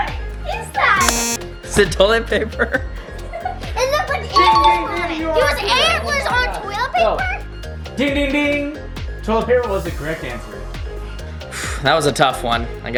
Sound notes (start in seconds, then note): 1.0 beep